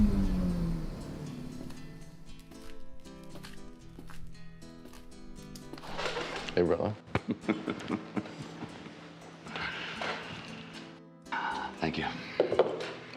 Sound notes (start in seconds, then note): 0.6 gentle upbeat music; 7.0 both laughing